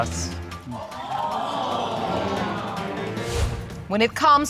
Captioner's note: audience exclaim